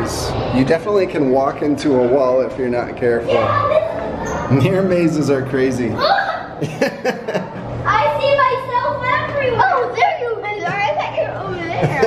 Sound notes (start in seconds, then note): 5.9 kids exclaiming; 6.5 laughs